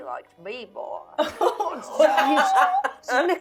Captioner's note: laughing